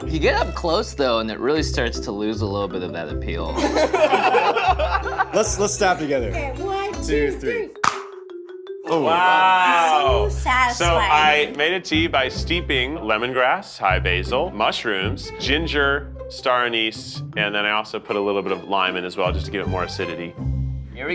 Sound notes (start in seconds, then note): 3.5 laughter; 7.8 plastic popping